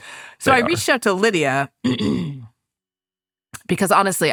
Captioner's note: clears throat